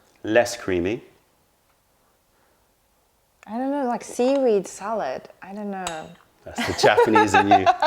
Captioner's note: laughter